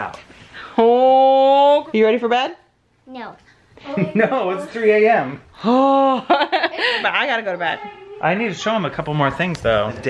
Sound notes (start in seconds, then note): 5.4 groans